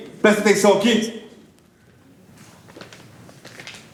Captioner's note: chats stop